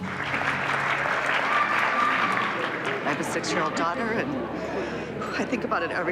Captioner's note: applause